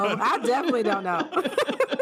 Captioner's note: laughter